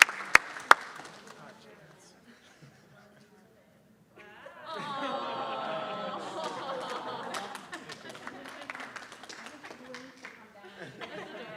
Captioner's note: applause